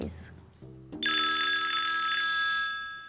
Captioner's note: phone Ringing